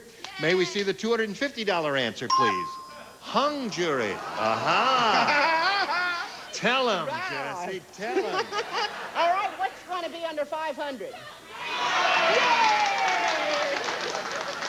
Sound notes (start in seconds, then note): 4.7 mocking